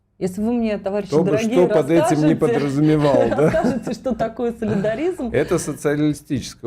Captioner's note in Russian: смех